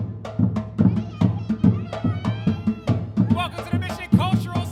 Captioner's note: drums beating; kids shouting